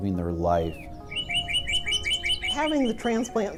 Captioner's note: birds chirping